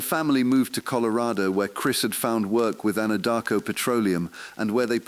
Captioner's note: exhale